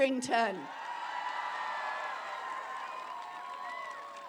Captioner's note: applause